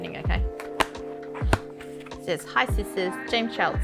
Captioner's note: clacking